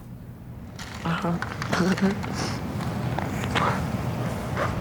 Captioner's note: laughing